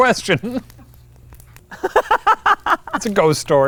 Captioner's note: laughing